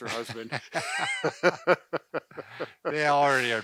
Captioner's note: men laugh